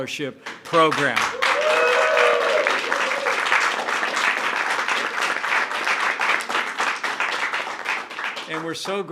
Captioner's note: applause